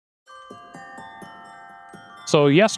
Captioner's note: bells ringing